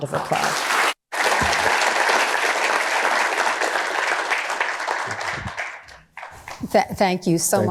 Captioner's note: applause